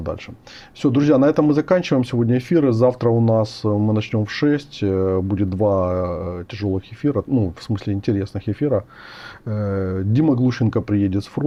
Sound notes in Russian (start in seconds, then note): none